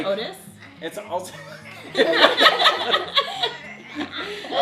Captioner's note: laughing